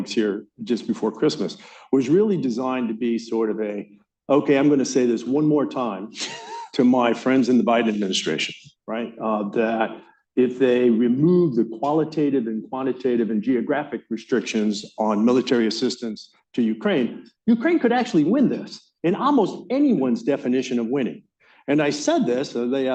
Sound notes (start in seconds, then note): 6.1 laughter